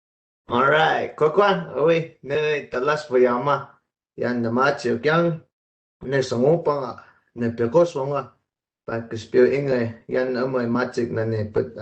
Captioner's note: speaking in native language